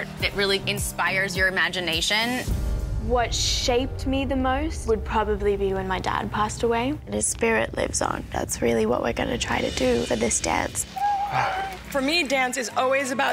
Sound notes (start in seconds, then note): 10.9 Bindi crying